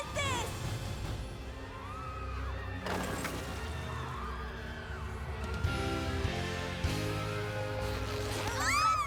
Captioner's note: screams